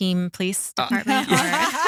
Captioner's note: laughing